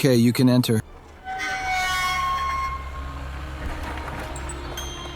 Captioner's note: large gate opening; mournful music